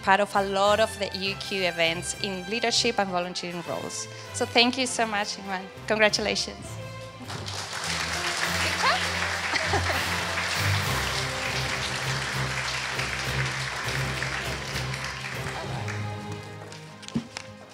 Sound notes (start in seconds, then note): 7.2 applause